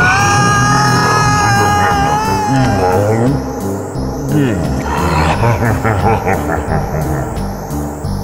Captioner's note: eating sounds